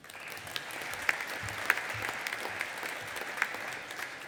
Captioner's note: audience applauding